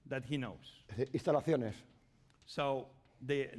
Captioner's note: speaking spanish